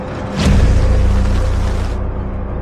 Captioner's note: rain pouring